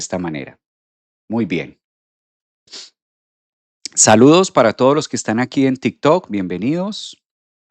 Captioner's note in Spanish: resoplido